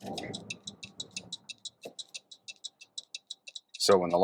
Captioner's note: car signaling